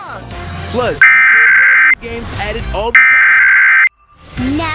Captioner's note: alert Tones Playing